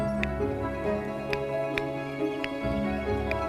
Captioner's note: clicking